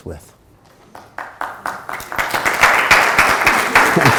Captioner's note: applause